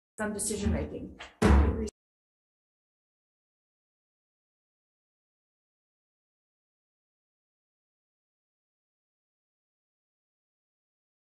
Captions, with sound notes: some decision making. (gavel bangs)